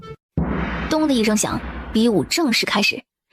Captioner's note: bang